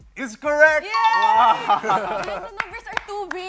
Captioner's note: laughs